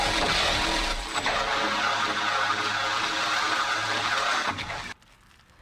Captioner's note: screams; sounds of battle